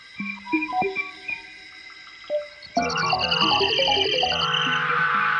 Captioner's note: high-pitched whistling